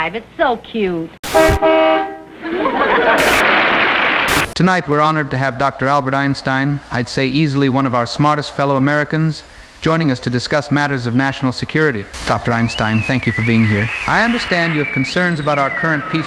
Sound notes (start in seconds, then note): 4.2 glitching; 4.5 applause